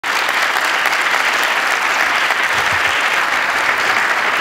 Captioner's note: applause